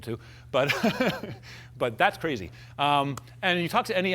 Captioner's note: laughs